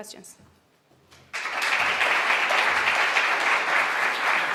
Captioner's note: applause